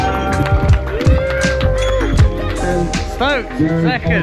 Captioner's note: people cheering